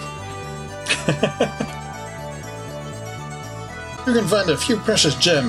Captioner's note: laughs